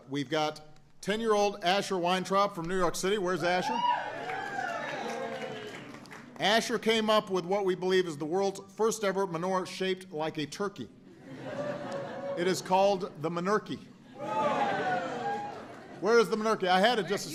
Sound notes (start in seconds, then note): 4.0 applause; 14.1 laughter